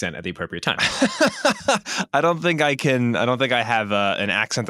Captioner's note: laughs